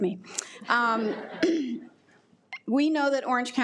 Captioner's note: attendees laugh